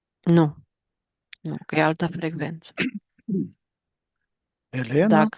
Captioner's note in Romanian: voce dreasă